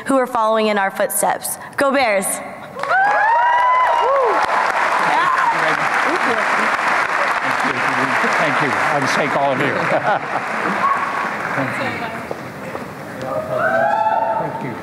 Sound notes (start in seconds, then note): 2.8 applause and cheering